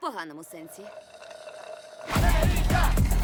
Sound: slurps; intense music plays

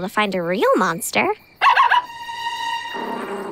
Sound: barking

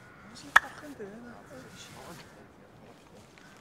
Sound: chatting

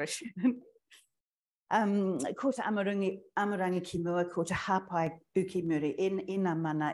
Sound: speaking in foreign language

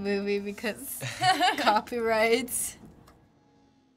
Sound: laugh

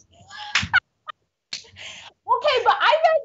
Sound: both laughing

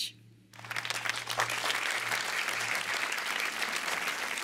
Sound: applause

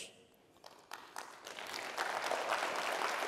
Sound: applause

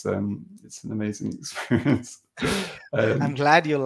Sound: laughing

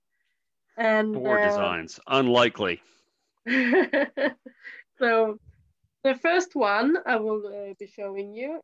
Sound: laughs

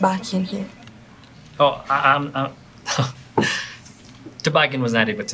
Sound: laughing

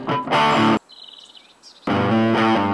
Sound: distant bird

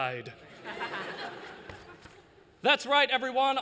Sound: laughter

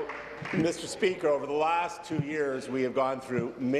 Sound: applause

